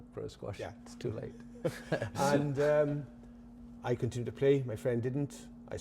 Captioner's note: laughing